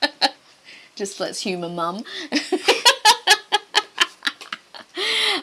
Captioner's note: laughs; both laugh